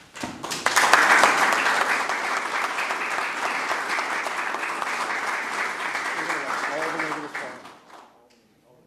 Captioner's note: applause